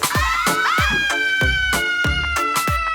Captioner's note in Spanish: Grito